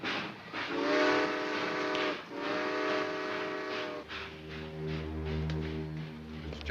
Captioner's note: train hooting; dramatic music